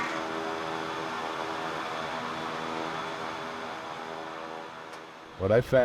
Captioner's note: shovel scraping; plane engine whirring